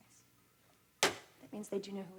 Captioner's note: hand thuds